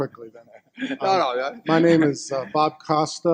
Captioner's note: laughs